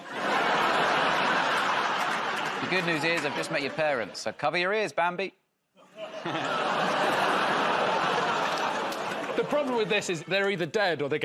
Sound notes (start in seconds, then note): 0.0 laughter; 5.9 audience groans